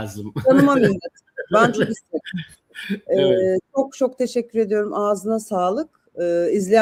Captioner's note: kahkaha